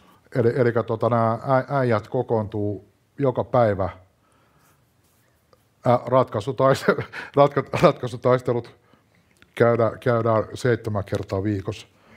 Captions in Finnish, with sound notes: Eli nää äijät kokoontuu joka päivä - ratkasutaistelut [naurua] - käydään seittemän kertaa viikossa.